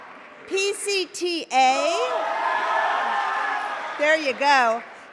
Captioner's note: cheering; cheering